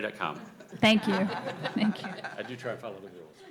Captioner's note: laughter